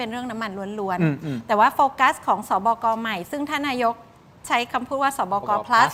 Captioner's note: clears throat